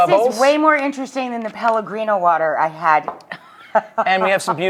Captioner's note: laughs